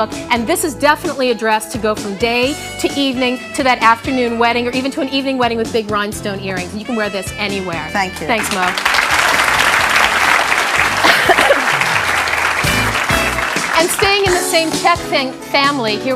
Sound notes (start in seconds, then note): 8.3 audience clapping; 12.7 jazzy music